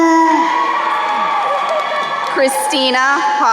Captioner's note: crowd cheering